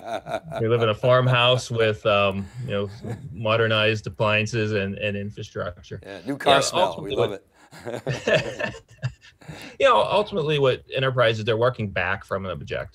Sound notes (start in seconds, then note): 7.7 laughs loudly